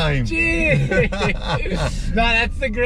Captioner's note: both laugh